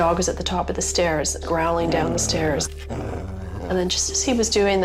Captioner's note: dog growls